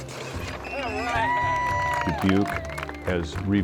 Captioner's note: cheers